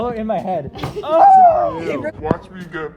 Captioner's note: screams